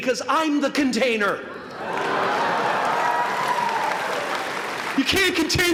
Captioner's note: applause